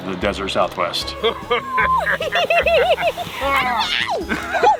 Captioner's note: laughing